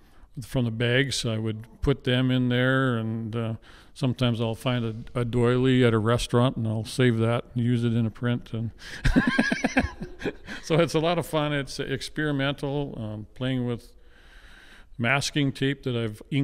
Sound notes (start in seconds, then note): 9.0 laughs